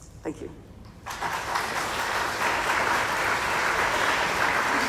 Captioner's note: crowd clapping